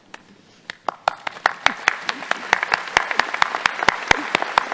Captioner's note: audience applauding